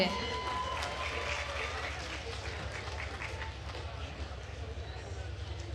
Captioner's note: attendees cheering and applauding